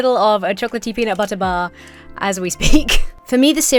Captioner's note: chuckles